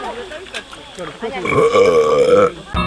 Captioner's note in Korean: 트름